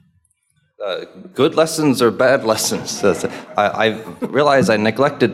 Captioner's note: audience laughing